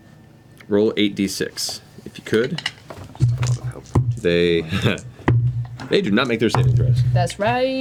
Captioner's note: laughs